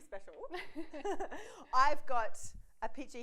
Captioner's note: laughs